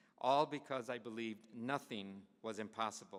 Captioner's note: none